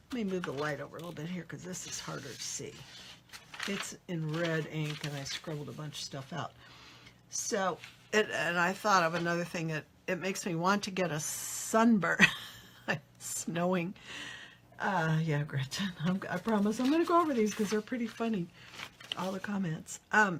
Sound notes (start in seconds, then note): 12.7 laughs